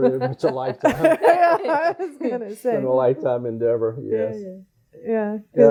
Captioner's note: all laughing